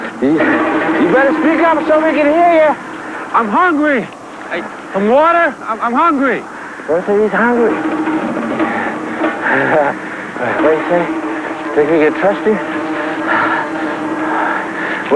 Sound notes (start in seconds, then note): 8.2 panting, laughing; 13.2 panting; 14.9 shouting